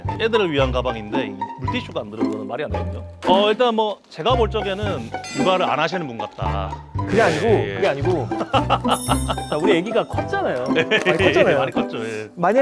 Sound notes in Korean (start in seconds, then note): 8.2 웃음